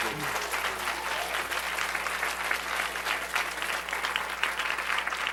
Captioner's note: applause